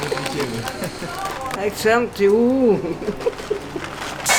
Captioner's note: laughs